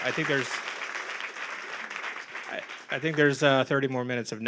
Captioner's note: applause